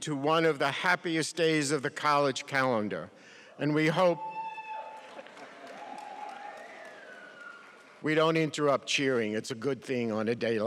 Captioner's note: cheering in background